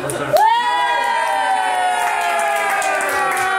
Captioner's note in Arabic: هتاف